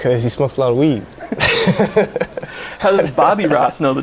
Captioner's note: laughing